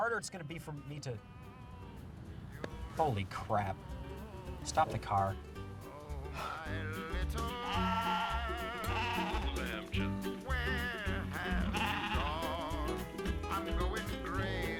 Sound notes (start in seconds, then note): 6.2 sighs deeply